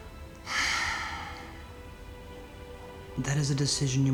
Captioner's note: sighing